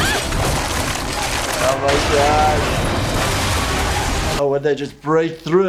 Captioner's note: yelling; squelching; crashing